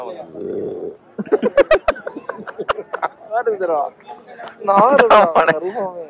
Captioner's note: laughs